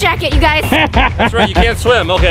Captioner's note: laughing